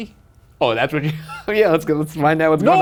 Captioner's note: laughs